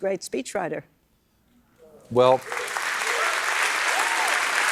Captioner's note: applause